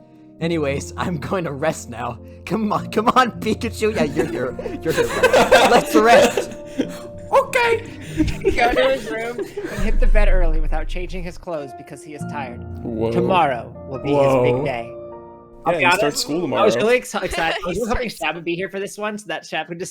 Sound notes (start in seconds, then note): 3.8 starts laughing and everyone joins; 8.0 giggling in the background